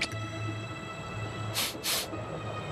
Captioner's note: sniffs